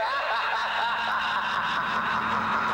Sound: maniacal Laughter

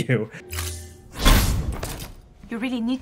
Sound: air snaps and whooshes

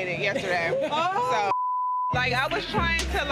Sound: beep

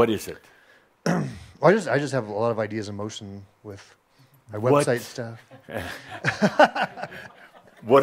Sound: he chuckles

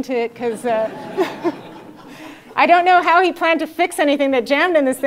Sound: laugh

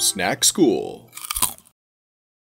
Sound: Crunch

